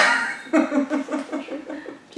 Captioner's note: laughs